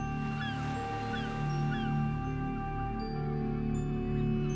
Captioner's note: waves crashing and gulls fades to music